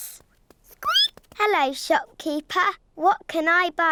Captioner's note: squeaks